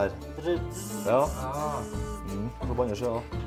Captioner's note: imitating drilling sounds